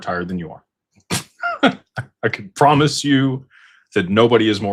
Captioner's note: laughter